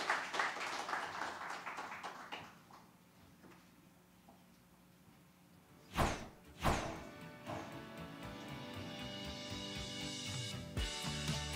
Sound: applause

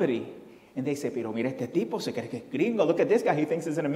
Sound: foreign language

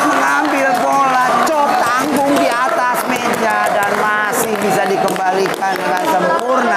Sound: applause

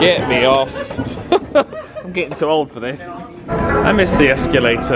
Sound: chuckles

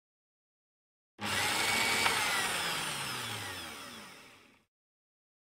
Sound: sound of kitchen mixer

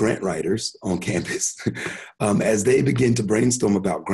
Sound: chuckles

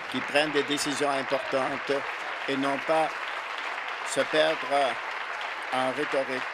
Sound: applause

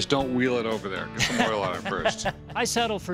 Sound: laughs

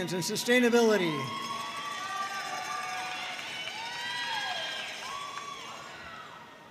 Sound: audience cheering and applauding

